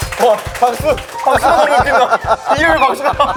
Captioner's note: applauds